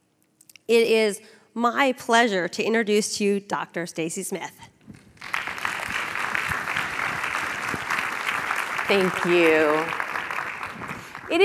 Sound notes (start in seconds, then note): 5.2 audience applause